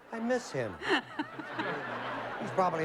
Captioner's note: laughter